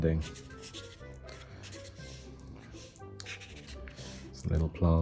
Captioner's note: pen scribbling